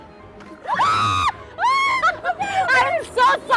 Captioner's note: screams